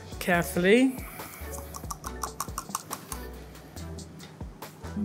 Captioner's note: whisk swishing